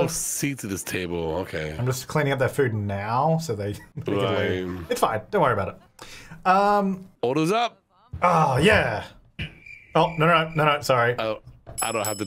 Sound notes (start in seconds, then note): 9.2 crickets chirping